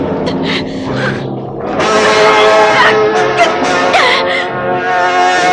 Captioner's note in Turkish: Kızın inlemeleri